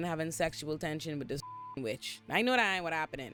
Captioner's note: beep